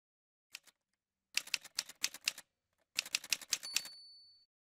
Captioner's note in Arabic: أصوات آلة كاتبة